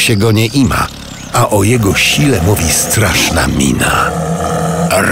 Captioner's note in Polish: ryk tygrysa